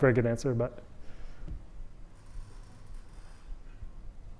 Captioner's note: audience member speaking